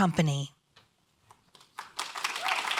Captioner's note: applause